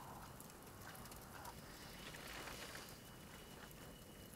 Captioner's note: flame crackles